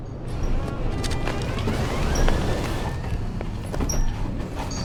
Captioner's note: door creaking